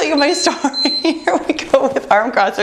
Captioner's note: beeping; laughs